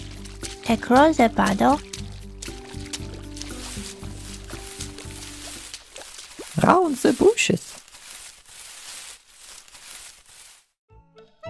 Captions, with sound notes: across the puddle (water splashes) (bushes rustling) round the bushes